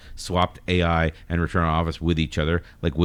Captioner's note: uh